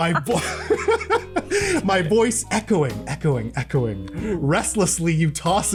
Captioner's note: laughter